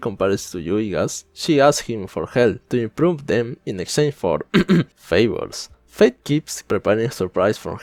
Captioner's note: cof cof